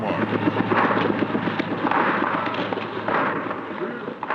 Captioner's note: commotion